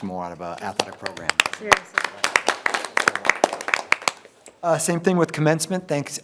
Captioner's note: people applauding